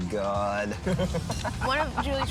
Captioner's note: laughing